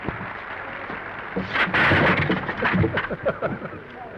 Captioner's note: seat clatters; Danny chuckles